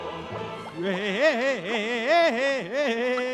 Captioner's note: fish laughs